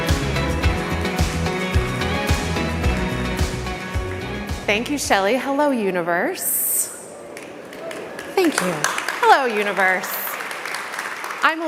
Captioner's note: applause